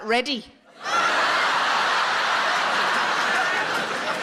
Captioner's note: audience laughing